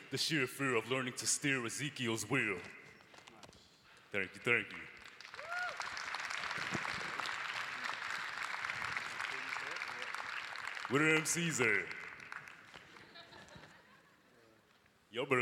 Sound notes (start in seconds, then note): 5.9 applause; 12.8 audience laughing